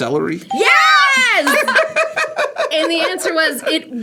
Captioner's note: laughs